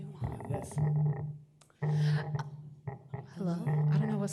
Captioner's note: low vibrating